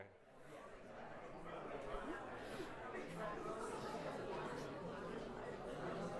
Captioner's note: indistinct chatter